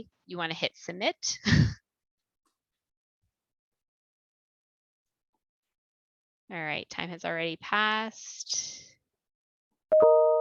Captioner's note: laughter